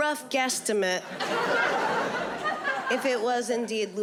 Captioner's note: audience laughing